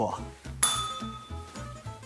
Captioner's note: bell rings